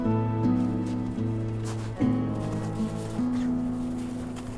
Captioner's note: snow crunches